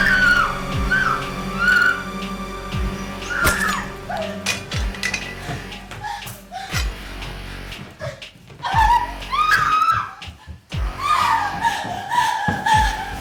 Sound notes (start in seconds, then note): 0.0 dramatic music; 0.0 Paige screaming; 3.3 dramatic music; 8.7 Paige screaming